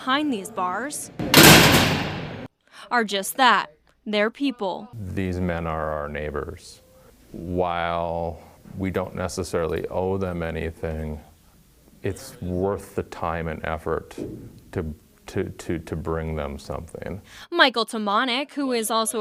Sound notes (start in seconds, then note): 1.2 nat pop door closin